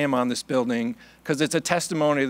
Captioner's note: none